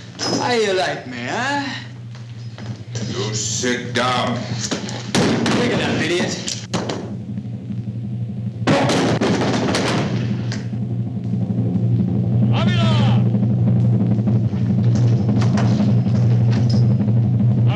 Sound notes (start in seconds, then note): 5.0 loud thud; 14.7 suspenseful drum roll